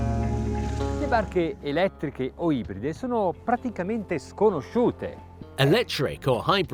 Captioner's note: speaks in foreign language